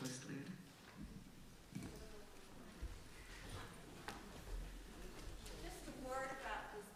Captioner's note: quiet crowd noise